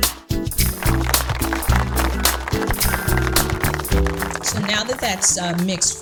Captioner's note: audience applauds